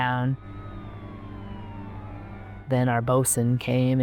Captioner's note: siren wailing